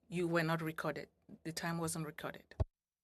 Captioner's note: speaking French